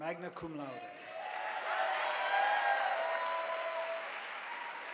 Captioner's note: audience applauding